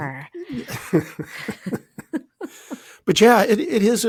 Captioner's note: both laughing